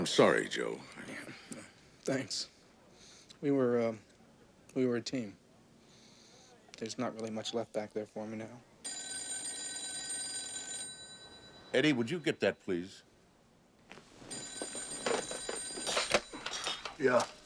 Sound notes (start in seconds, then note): 8.8 telephone rings; 14.2 ring